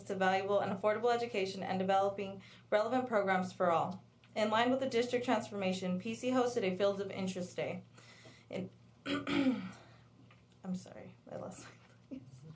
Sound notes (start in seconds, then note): 9.0 clears throat